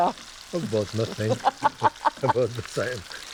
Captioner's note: laughs